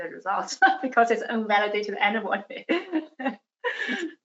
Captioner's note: laughs